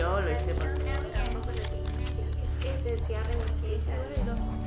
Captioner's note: pages turning